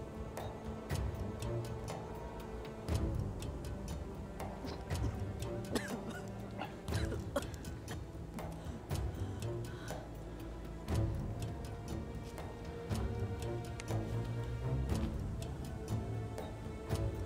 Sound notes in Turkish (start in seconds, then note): 5.6 Öksürme sesi; 10.3 Müzik - Gerilim